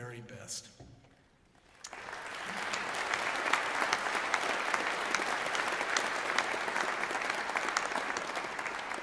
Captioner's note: applause